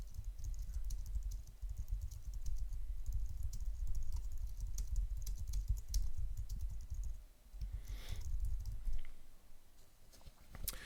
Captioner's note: typing on screen